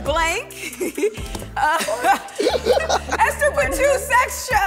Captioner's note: everyone laughs